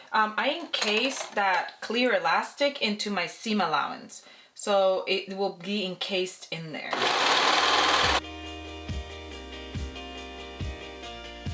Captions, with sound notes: I encase that clear elastic into my seam allowance. So it will be encased in there. (sewing machine whirs) (Light music)